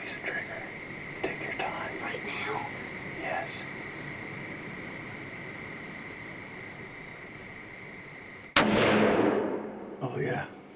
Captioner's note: whispering